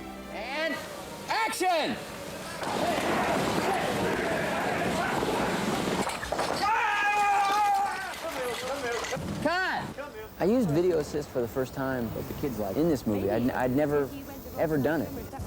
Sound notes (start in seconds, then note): 7.2 shouting